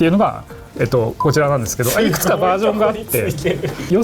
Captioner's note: laughs